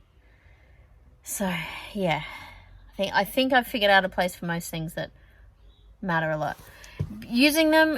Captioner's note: sighs